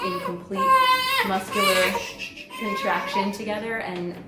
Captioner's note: baby cries